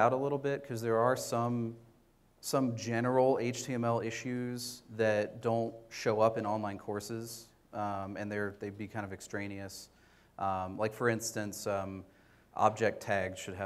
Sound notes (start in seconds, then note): none